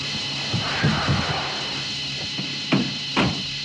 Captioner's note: tires skidding on gravel; truck door slams